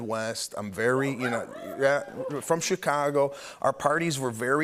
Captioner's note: cheers